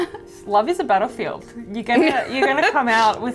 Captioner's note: laughing; laughing